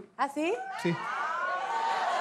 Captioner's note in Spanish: Bullicio